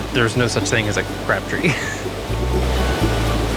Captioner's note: giggling